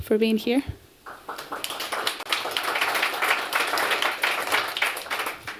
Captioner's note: applause